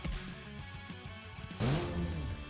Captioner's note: super sonic fart noise